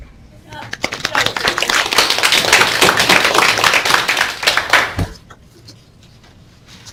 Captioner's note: clapping